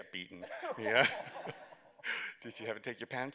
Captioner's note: laughter